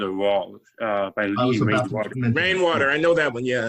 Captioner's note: voice muffling